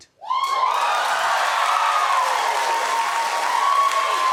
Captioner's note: audience cheering